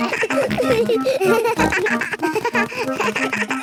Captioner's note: giggles; snorts, bleating